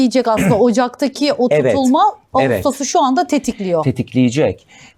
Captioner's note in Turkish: boğazını temizler